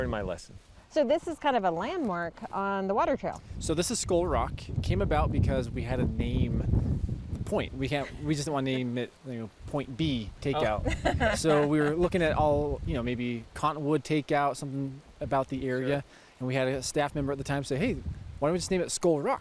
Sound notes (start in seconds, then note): 10.5 laughs